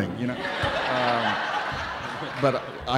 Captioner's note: audience laughing